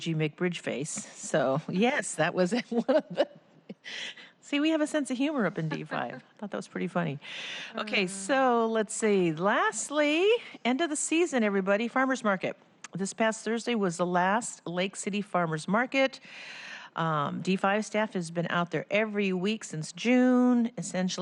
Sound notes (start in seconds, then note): 5.6 laughter